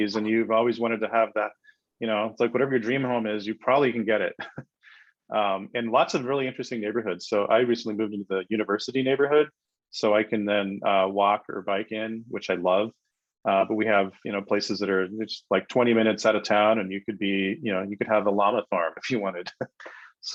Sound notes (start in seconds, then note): 4.2 chuckles